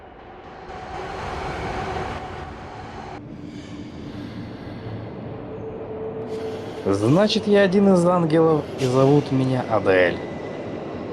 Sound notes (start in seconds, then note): 0.2 the sound of the train; 3.5 ghostly ether and train noise